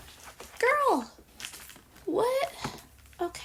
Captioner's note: paper rustle